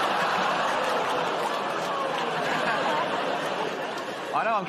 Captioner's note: laughter; audience groans